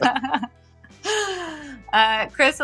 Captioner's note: <Laugh>